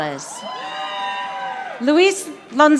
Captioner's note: audience applauding